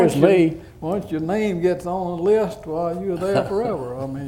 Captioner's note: laughter